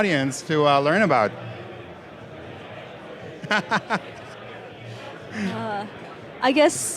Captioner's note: laugh